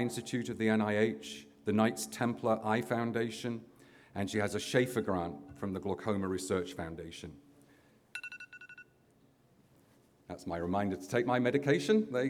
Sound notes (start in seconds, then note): 8.1 alarm ringing